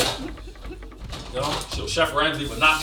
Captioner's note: chuckles